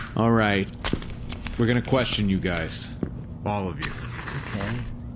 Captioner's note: tapping down his cigarette pack